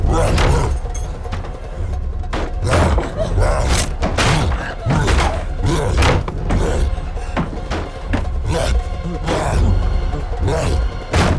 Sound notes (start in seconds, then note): 2.5 cyclops grunting; 3.0 Barbara whimpers